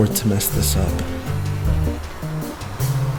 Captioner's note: drone buzzing; upbeat music